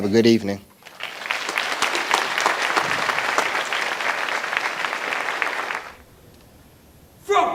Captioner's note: applause